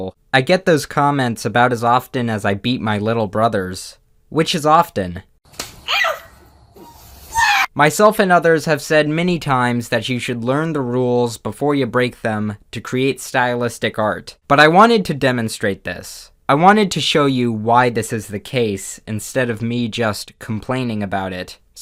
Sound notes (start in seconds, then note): 5.5 slap; 5.8 yelp